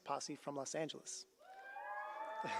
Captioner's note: cheering